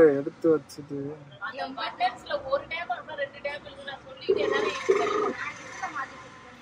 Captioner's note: Call Ringing